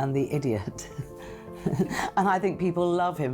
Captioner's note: laughing